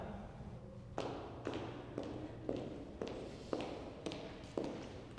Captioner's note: footsteps approaching